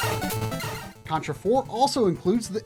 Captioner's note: Contra Game Audio